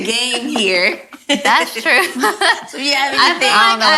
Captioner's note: laughs